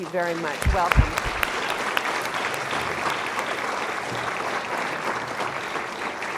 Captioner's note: applause